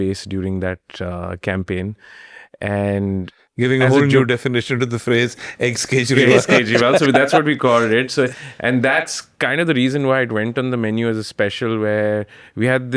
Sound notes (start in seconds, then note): 6.0 laughs